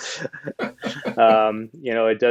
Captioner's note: chuckle